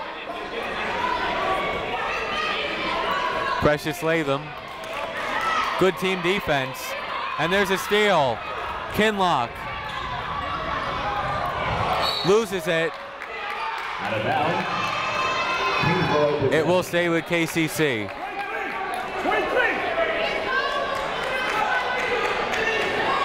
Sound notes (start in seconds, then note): 0.0 people shouting in the crowd; 10.7 people shouting in the crowd; 12.0 whistle tweeting; 15.8 people shouting in the crowd; 18.1 people shouting in the crowd